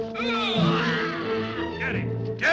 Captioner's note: men groaning